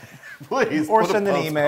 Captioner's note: laugh